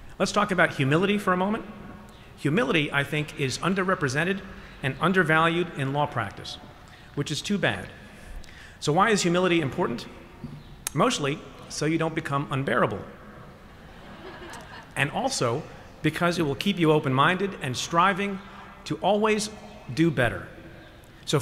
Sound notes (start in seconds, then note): 13.8 laughter